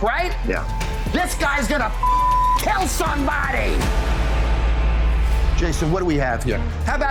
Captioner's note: beep